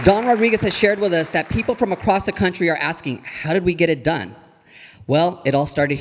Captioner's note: audience applauding